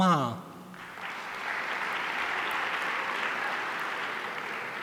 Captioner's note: audience applauding